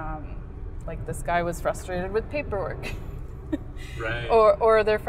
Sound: laughs

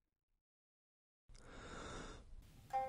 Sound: deep inhale

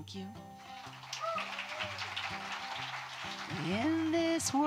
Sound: audience applauding

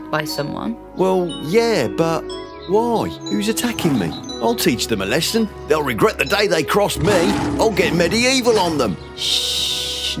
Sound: lion starts to roar

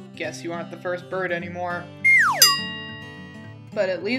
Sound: sad slide whistle noises

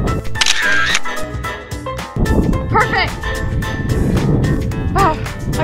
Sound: camera shutter click

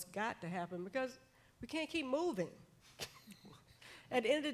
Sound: chuckles

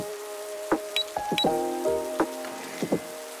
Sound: click click

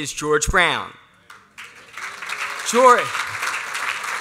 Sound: applause

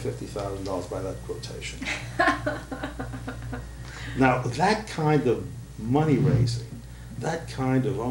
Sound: laughter

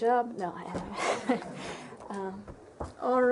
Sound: laughter

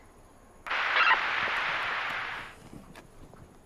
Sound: radio static

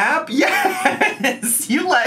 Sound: laughs

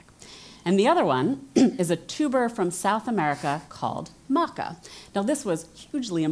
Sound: cough

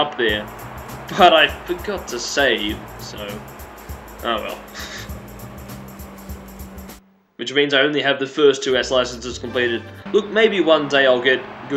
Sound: closed laughter

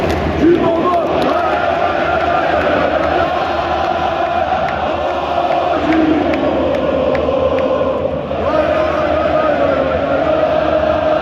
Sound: grandstand Cheers

